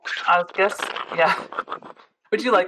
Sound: also imitates minecart sounds

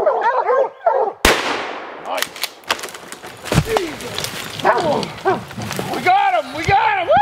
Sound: gun shots firing

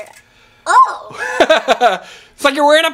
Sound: laughs

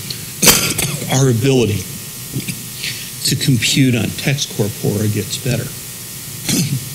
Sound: cough

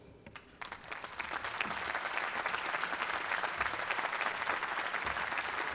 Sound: applause

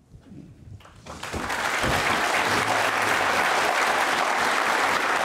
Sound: audience applauding

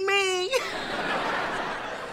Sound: laughing

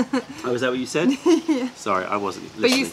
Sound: laughter

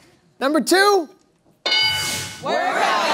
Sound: bell dings

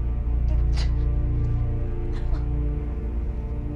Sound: sobbing

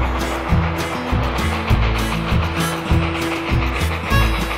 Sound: brakes squealing

